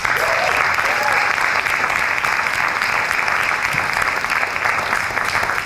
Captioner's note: cheers and applause